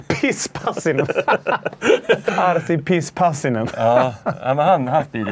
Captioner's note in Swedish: skratt